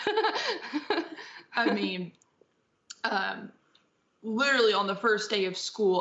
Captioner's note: laughter